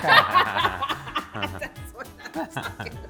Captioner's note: laughing